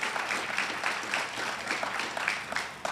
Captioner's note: audience cheers and applauds